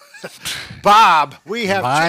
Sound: chuckle

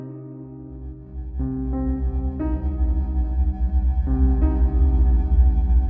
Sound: slow dramatic piano music; deep, eerie electronic pulsating sound; sound fades, music continues

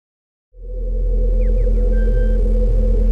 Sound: whirring

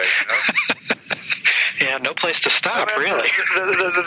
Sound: laughing

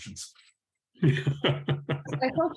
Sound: laughing

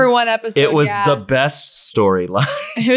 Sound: laughs

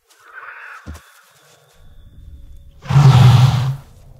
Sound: growling

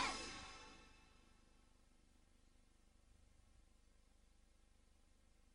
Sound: VHS static

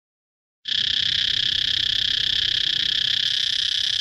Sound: cicadas warbling

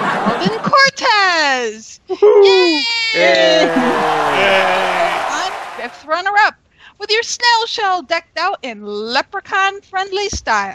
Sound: cheers and Applause

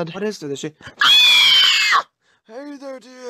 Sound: screaming

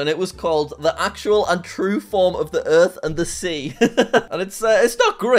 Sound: laughs

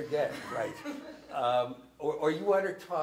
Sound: student laughs

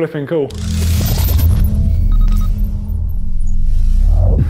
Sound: electronic beeping

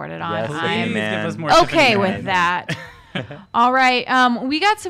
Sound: both men talking

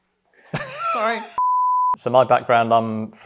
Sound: laugh

